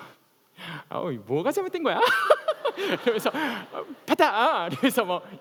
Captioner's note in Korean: 웃음